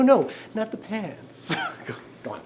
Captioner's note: laughs